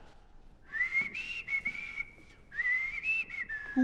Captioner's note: whistling